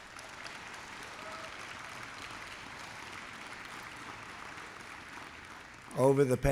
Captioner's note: applause